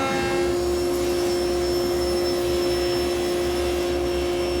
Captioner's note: table saw whirring